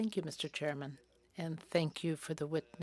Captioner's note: speaking French